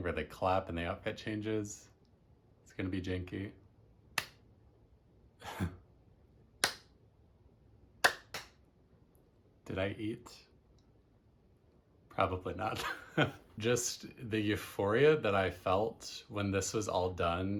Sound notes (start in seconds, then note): 5.8 clap, laughs at self; 8.0 clap; 11.7 laughs at truth